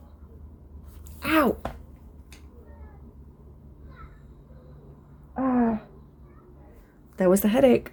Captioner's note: pain noise